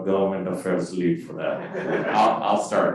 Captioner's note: crowd laughing